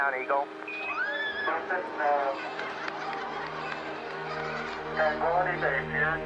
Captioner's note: cheering